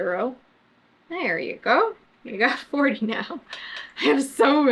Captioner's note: laughs